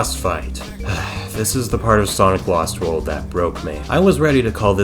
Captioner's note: sigh